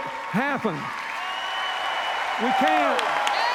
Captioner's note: cheers, applause